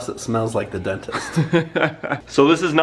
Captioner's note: laughs